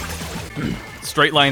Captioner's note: clears throat